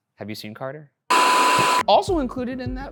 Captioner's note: screen buzzing